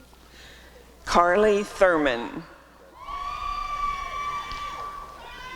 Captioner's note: applause and cheering